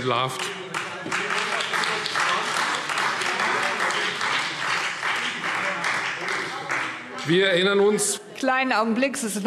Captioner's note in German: Beifall Freie Demokraten, vereinzelt CDU und BÜNDNIS 90/DIE GRÜNEN - Unruhe